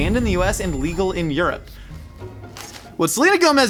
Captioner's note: ringing resonating; heavy object thudding